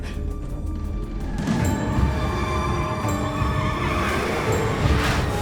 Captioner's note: car tires screeching